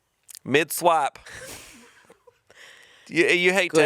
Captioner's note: chuckling